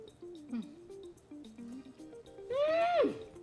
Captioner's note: moans